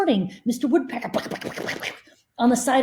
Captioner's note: mimmics woodpecker